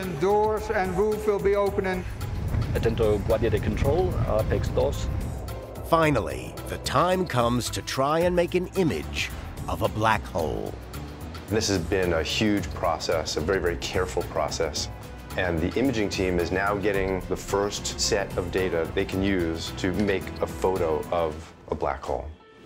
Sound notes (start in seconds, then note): 2.9 speaking in foreign language